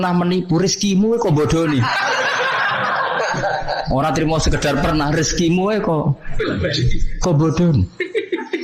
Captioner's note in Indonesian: tertawa